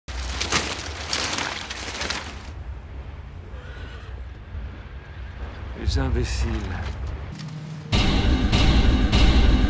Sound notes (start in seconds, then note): 0.1 armor clinking; 3.5 horses neighing; 5.9 speaking foreign language